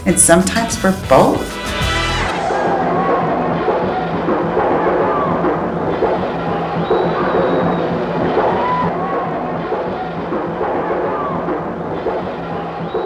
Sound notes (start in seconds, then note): 2.5 muffled yelling; 3.3 percussive marching music